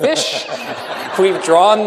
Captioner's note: laughter